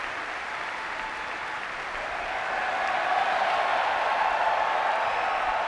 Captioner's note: audience cheering